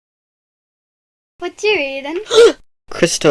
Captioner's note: gasp